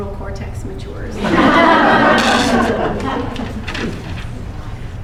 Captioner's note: laughter